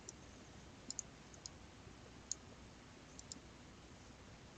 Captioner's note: mouse clicking